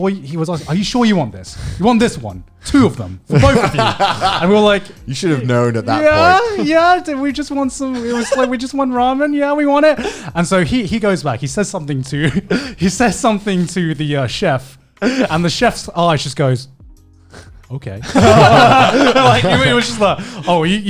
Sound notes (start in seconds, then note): 18.0 laughing